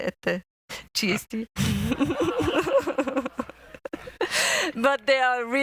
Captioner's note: laughter